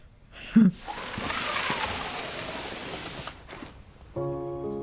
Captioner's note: sliding basket